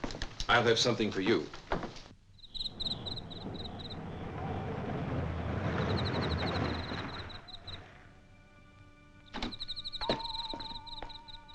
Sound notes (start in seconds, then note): 2.2 insects chirping; 7.8 soft, suspenseful music